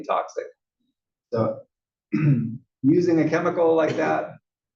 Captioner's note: cough